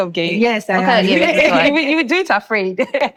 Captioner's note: laughing